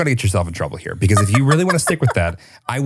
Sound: laughs

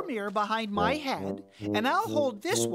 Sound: gasping

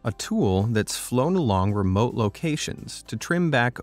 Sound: none

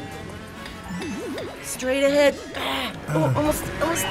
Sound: grunts

